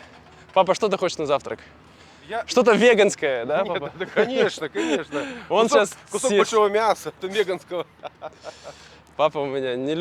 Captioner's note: laughs